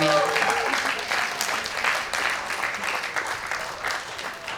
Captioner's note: audience applauds